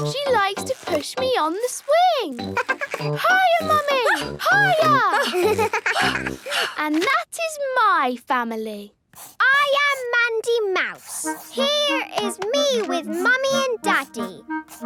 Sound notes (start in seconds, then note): 2.4 giggles; 5.2 panting